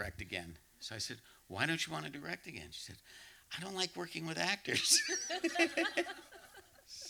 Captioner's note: laughter